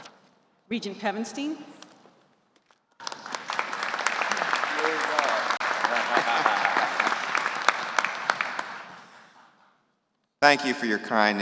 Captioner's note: applause